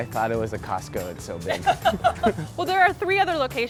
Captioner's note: laughing